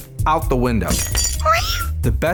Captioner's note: glass breaks; squeaking sound